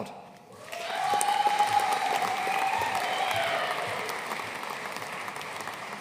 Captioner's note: audience cheering and applauding